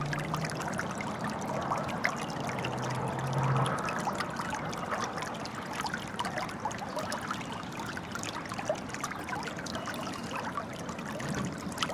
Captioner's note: running water